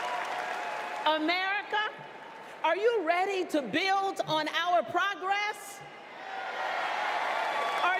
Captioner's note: cheers and applause